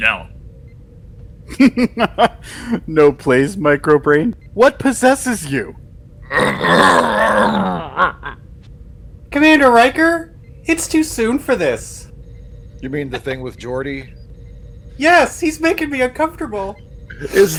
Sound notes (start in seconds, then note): 6.3 Klingon growling